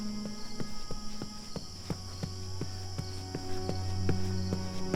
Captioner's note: footsteps thudding